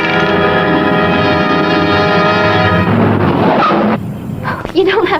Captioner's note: dramatic chords; gun humming; brakes screeching; bones rattling